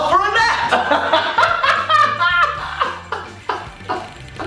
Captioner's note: laughing